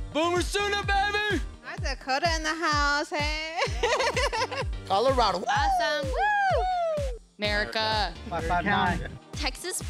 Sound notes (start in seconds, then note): 3.6 laughs